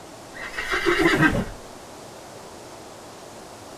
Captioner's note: horse neighs